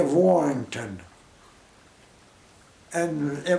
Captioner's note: pause